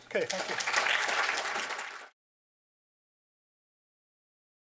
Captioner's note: applause